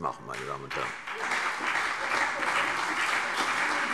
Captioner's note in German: Beifall CDU und BÜNDNIS 90/DIE GRÜNEN